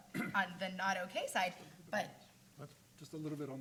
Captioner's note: coughs